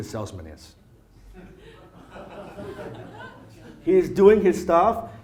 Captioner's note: audience laughs